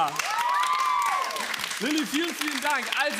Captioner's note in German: Applaus